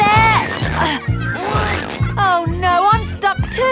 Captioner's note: grunting